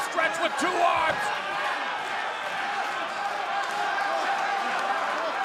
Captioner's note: crowd cheering